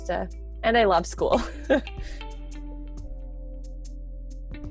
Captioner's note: laughs